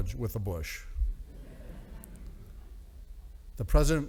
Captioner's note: audience laughing